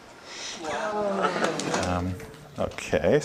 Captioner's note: audience murmurs